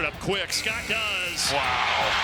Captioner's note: buzzer buzzes